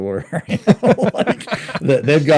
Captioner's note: both laughing